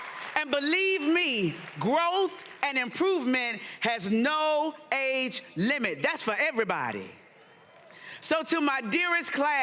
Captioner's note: cheering and applause